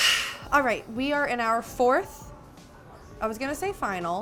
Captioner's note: sighs